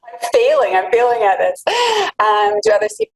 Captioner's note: laughs